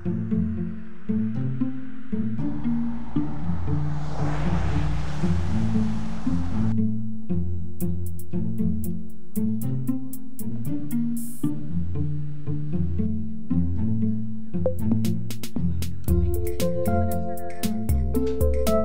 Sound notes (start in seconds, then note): 0.0 mellow music; 3.7 car zooming